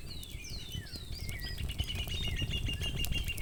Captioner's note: fire crackling